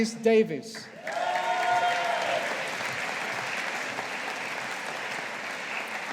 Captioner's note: audience applauding